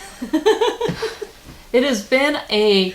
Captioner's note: laughing